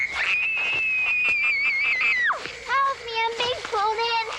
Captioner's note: Miranda screaming